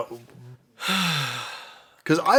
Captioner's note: sighs